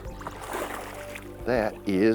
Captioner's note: water splashes